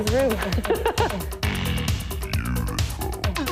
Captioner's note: laughing